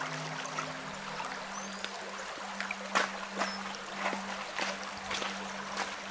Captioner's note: river running